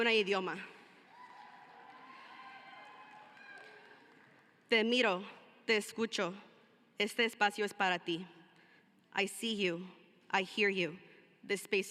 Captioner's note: cheering and applause